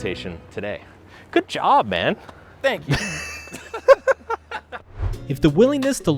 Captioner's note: both laughing